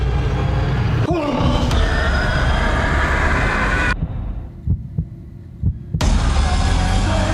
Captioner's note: dramatic menacing music; Scott yelps